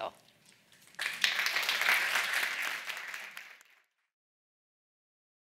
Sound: audience applauding

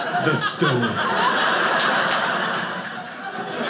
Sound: audience laughing

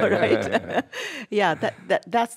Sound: laughs

